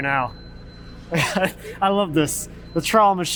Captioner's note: laughs